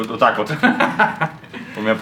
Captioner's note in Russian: смех